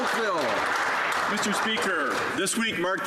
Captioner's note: some Applause